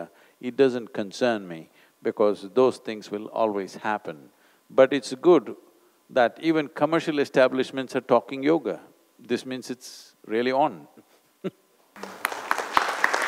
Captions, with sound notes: it doesn’t concern me because those things will always happen. But it’s good that even commercial establishments are talking yoga. This means it's really on (Laughter/Applause).